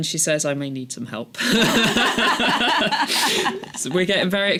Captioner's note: laughter